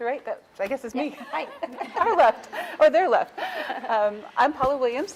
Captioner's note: chuckling